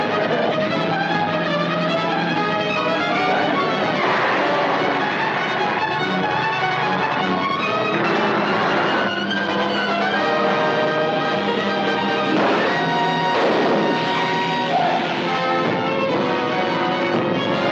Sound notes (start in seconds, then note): 12.3 gun firing; 14.8 dramatic music